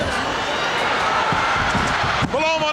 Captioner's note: audience cheering